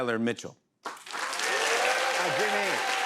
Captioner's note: cheers and applause